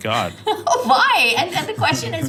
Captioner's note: laugh